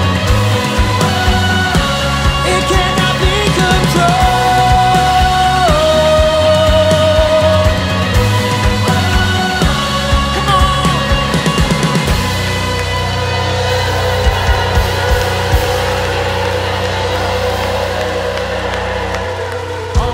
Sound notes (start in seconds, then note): 0.1 upbeat music; 6.1 upbeat music; 13.6 crowd clapping